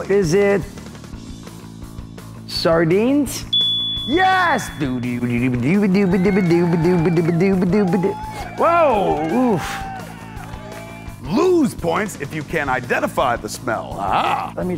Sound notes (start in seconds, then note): 3.5 dinging noise; 5.6 beat-boxing and cheering